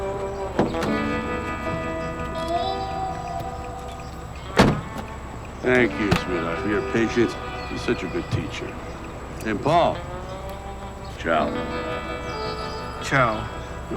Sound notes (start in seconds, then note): 0.1 door clanking; 4.3 door slamming